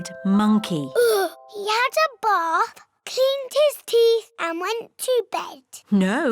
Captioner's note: sighs